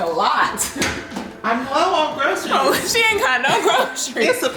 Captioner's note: murmurs